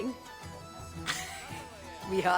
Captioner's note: laugh